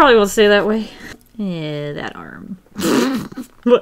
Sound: laughs

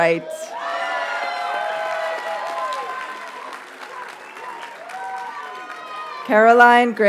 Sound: audience cheers and applauds

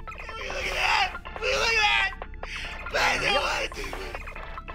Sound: screaming

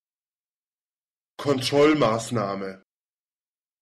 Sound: fast Pronunciation

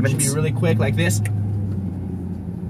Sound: snap

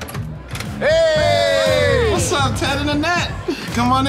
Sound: all cheering

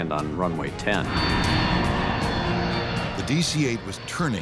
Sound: plane engine roars

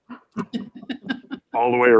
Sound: board members laughing

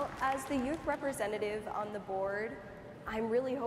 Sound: applause

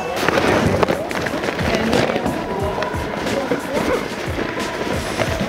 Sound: crowd murmuring

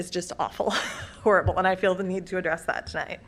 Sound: laughter

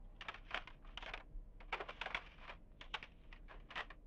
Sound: papers rustling over intercom

